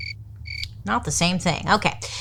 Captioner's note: crickets chirping